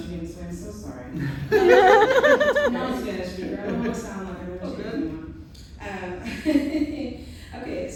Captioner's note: laughter